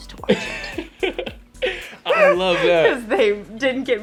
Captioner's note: laughs